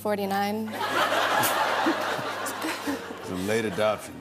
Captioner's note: laughter